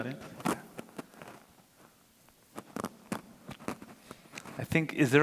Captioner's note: microphone crackling